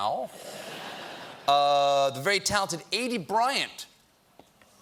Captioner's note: laughter